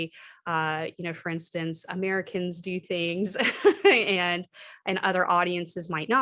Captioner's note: laughter